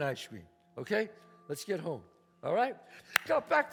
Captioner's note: claps